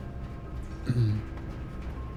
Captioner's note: clears throat